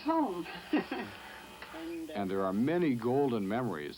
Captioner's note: laughing